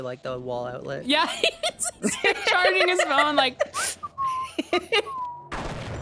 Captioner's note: both laugh; whistles; gunshot